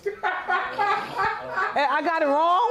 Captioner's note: laughing